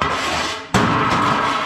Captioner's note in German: krach